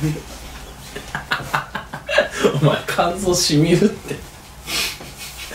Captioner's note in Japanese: 魔王の笑い